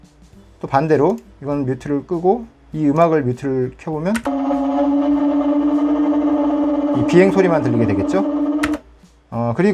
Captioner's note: motor